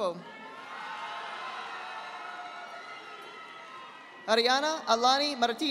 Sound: audience applauding

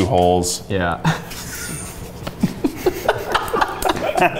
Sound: all laugh

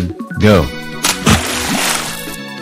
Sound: simultaneous splash

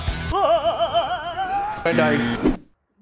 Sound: rock music; man wailing

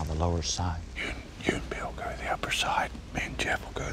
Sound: whispering

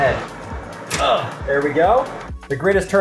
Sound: switch clicking

